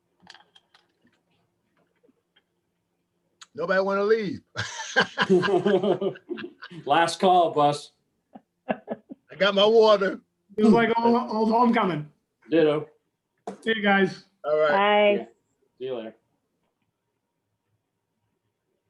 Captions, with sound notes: Nobody wanna leave. (laughing) - Last call, Bus. - I got my water. - This is like old homecoming. See you guys. - All right. - Bye! - See ya later.